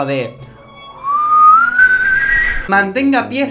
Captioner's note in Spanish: silvando